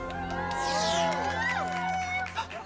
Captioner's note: meowing